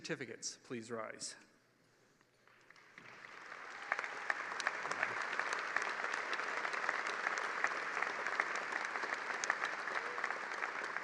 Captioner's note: applause